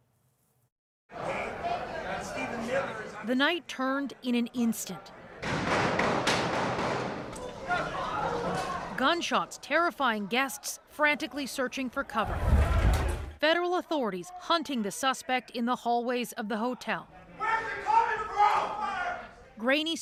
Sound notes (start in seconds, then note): 7.3 shots